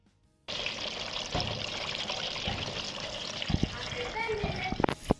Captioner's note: sizzling cooking oil